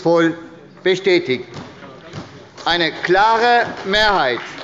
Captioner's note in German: Beifall bei der SPD